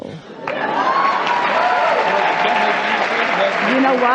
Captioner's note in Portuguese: A plateia ovaciona